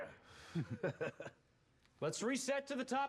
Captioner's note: laughs